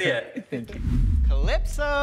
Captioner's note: image whooshes